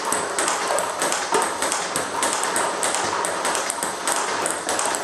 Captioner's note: ball ping pong hitting continues